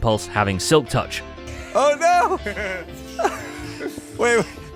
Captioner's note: laughs